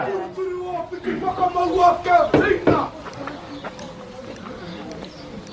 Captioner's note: speaking foreign language